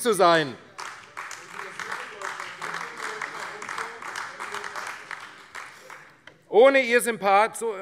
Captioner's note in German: Beifall AfD